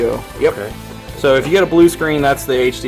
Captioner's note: voiceover